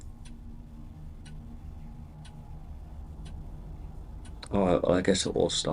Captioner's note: clock ticking